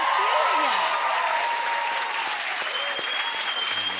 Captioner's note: cheers and applause